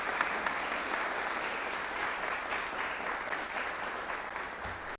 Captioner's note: clapping